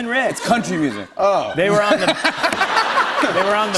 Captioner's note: laughter